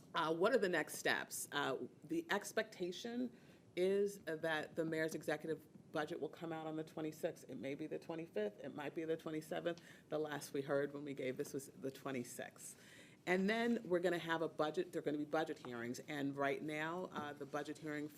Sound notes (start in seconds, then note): none